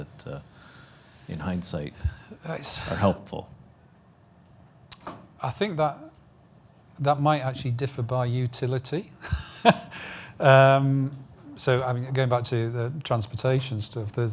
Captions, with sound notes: that in hindsight are helpful? - I think that might actually differ by utility (laughs). Going back to the transportation stuff